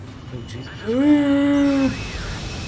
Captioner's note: fearing for your life noise